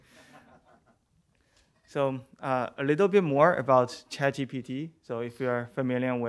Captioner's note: laughter